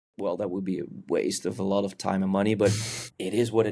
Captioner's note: chuckles